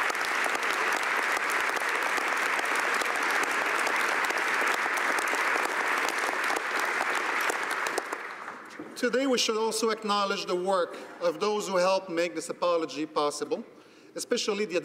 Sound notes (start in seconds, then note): 0.0 cheering and Applause